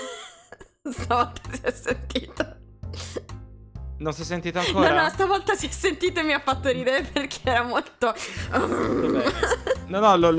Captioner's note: angry noise